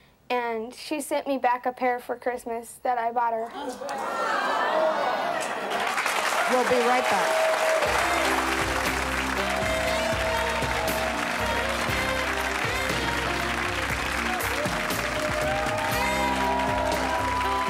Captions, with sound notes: and she sent me back a pair for Christmas that I bought her. (audience clamors) (applause) - We'll be right back.